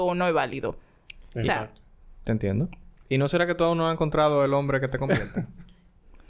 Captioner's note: laughs